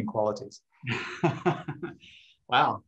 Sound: laughs

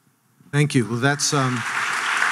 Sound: audience clapping

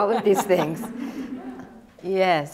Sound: laughter

